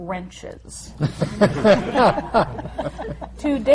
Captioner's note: laughter